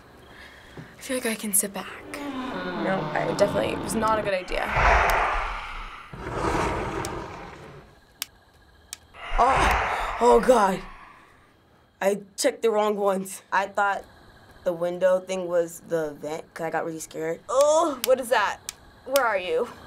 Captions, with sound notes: - I feel like I can sit back. (low creaking) No, I definitely-- was not a good idea. (ominous whoosh) (window slides open) - (disconcerted) Oh... oh god. I checked the wrong ones. I thought the window thing was the vent. Kinda got really scared. - Ugh, what is that? Where are you?